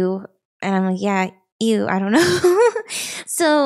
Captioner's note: chuckles